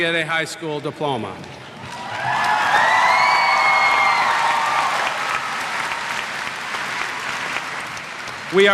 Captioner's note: cheers